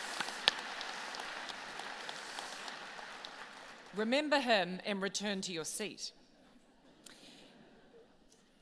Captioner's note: applause